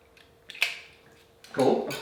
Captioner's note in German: Schnallen klickt